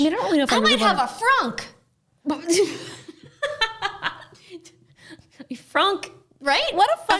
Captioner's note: laughs